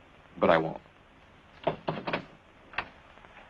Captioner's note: knocking on door